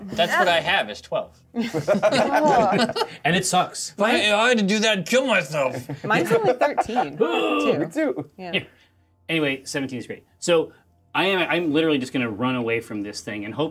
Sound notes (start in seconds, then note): 1.6 co-hosts laughing; 8.4 laughs